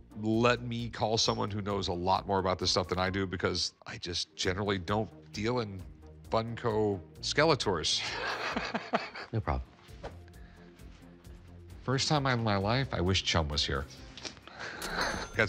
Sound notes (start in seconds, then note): 8.0 laughing; 14.6 laughs